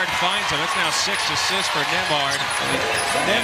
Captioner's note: cheers and applause